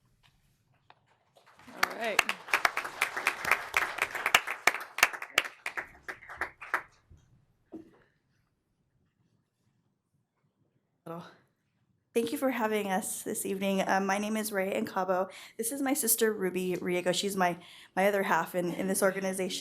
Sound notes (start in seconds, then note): 6.3 applause